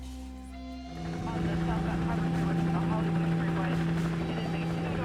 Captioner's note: indistinct police chatter